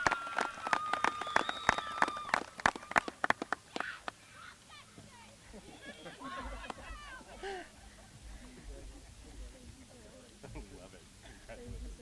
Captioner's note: applause